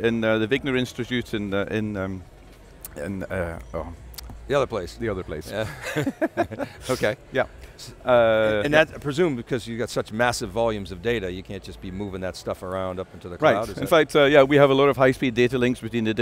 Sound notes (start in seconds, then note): 3.4 snaps; 5.6 both laughing